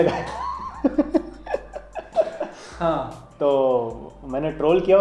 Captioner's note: laughs